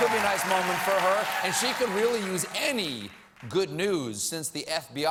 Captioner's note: cheers and applause